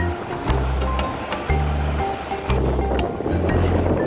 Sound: wind blowing

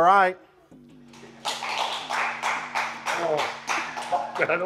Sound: contestants clapping

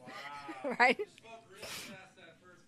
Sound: chuckles

